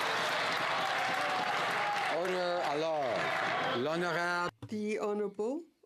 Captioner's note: some Applause